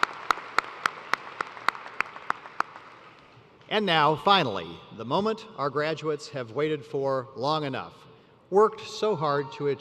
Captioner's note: applause